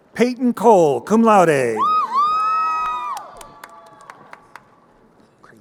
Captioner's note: crowd cheering